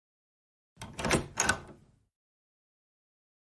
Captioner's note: door opens